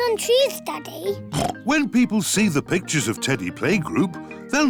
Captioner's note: oinks